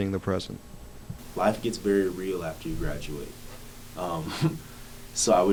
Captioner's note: laughs